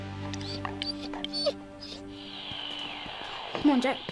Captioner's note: dog whines